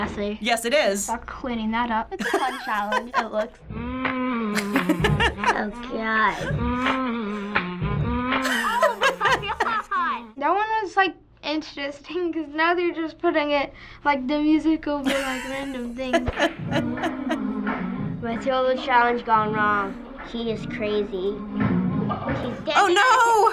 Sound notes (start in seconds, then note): 4.5 laughing; 15.0 laughing